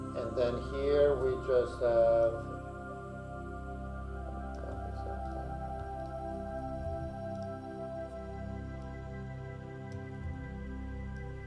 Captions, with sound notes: And then here, we just have. (gentle music) (mouse clicking)